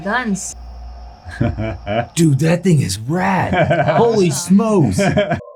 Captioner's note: laughing